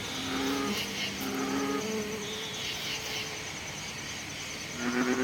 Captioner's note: cacophany of nature sounds